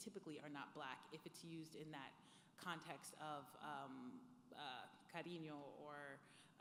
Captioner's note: speaking foreign language